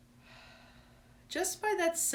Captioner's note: exhaling